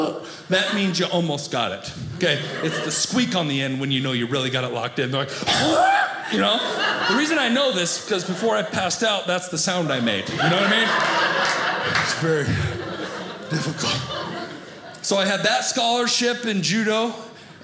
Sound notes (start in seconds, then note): 9.9 audience laughing